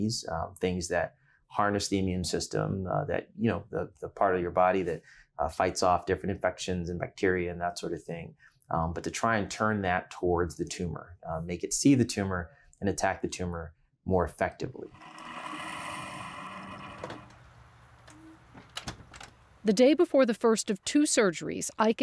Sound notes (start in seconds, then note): 14.9 coffee machine whirring; 18.5 door clicking shut